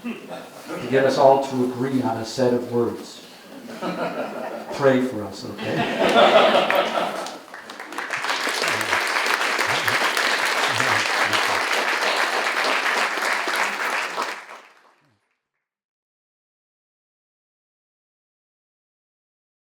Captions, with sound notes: to get us all to agree on a set of words. (audience laughing) Pray for us. Okay? (audience laughing) (audience applauding)